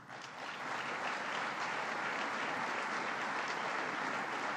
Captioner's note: applause